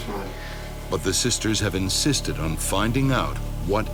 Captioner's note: voiceover